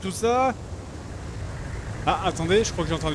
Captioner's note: vague car noise